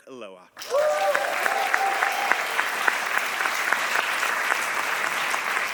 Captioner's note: audience applauding